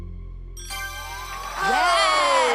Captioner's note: ding